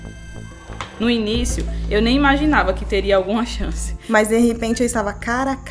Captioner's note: woman speaking Portuguese